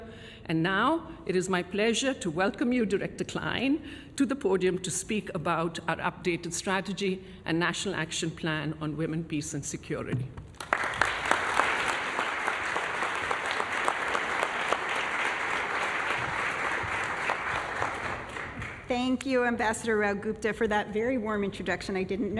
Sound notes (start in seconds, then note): 14.2 applause